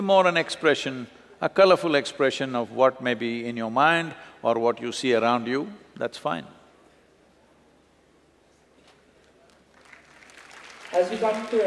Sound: applause

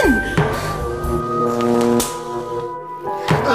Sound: buzzing

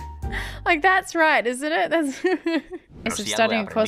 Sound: laughs

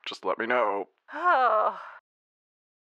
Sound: Rey sighs

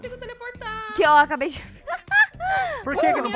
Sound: laughter

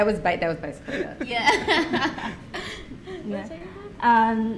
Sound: laughs

